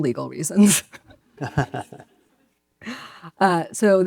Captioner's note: laugh